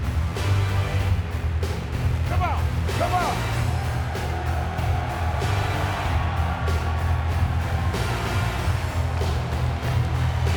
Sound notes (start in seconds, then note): 2.8 audience cheering; 4.0 upbeat music